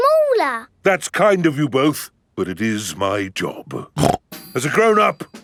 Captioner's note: snorts